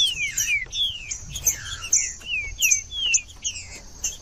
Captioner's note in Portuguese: trinca ferro cantando